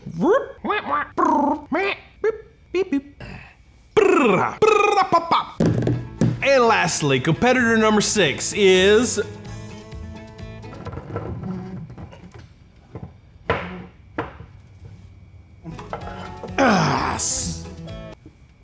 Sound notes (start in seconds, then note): 2.4 beeping; 4.0 rolling tongue; 5.6 table thumping; 10.4 stool squeaking